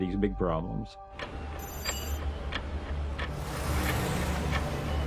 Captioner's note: clock ticking